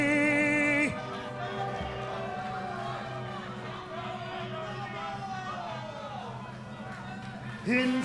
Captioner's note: crowd chatter